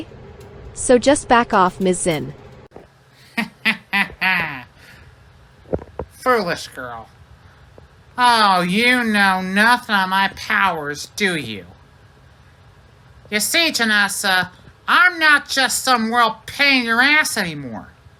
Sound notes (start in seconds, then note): 3.2 chuckles